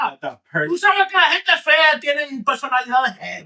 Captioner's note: speaking In Foreign Language